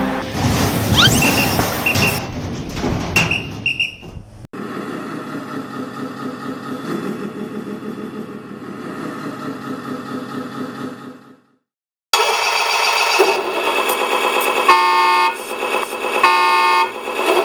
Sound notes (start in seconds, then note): 4.5 truck sound; 14.7 horn